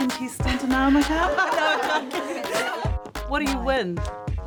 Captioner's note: women laugh